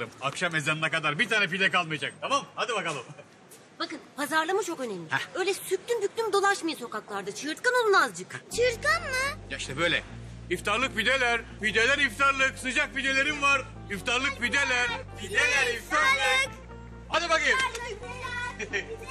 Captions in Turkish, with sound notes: Akşam ezanına kadar bir tane pide kalmayacak, tamam mı? Hadi bakalım. Bakın pazarlama çok önemli. Öyle süklüm büklüm dolaşmayın sokaklarda, çığırtkan olun azıcık. Çığırtkan mı ? Ya işte böyle 'İftarlık pideler' 'Pideler iftarlık' 'Sıcak pidelerim var' (Hep beraber bağırıyorlar) (Gülüşmeler)